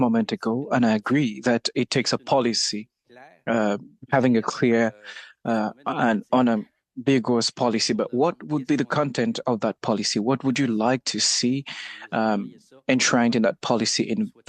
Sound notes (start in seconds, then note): 2.5 speaking French